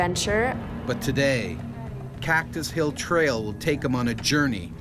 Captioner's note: voiceover